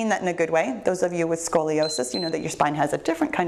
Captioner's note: timer beeps